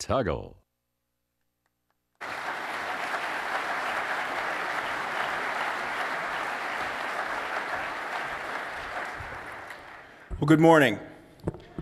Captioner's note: applause